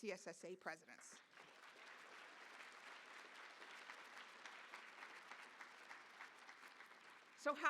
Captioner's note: applause